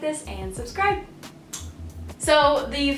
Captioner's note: kiss